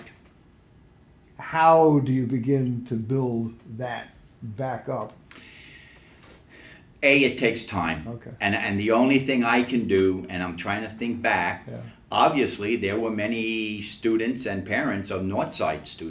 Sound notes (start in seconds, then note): 6.2 sighs